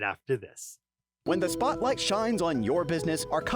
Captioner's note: voiceover